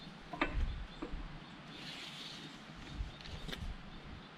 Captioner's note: strap clanging